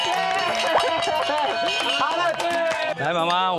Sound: applause

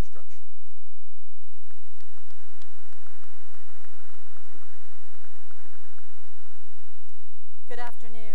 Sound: applause

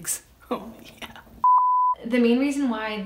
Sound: beep

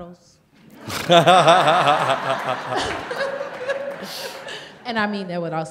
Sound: laughter

